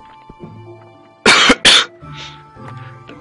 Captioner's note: coughing